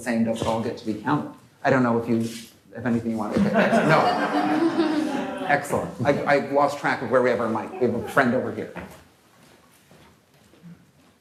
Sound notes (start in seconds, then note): 3.3 laughter